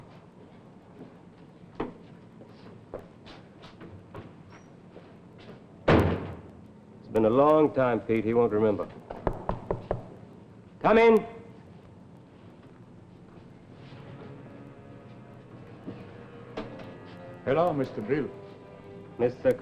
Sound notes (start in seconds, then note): 5.9 door thuds; 9.2 knocking on door; 16.6 suspenseful music